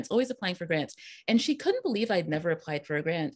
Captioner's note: none